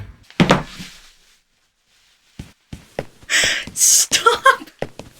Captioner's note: phone thumping; laughs